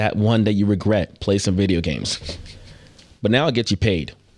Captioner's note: laughing